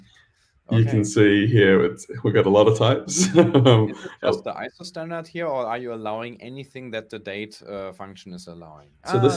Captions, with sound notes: You can see here, we've got a lot of types (laughs). - That's the ISO standards out here or are you allowing anything that the date function is allowing?